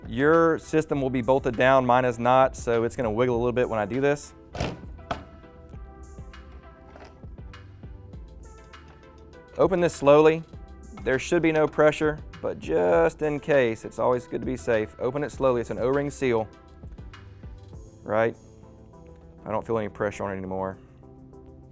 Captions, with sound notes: Your system will be bolted down. Mine is not, so it's gonna wiggle a little bit when I do this. (machine rattling) Open this slowly. There should be no pressure, but just in case, it's always good to be safe, open it slowly. It's an O-ring seal, all right? I don't feel any pressure on it anymore.